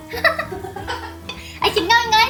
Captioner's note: laughs